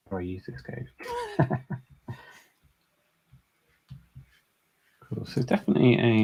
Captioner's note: laughs